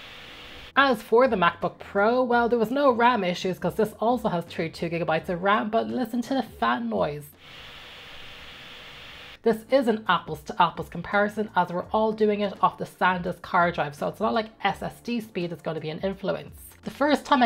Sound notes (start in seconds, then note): 7.4 fan noise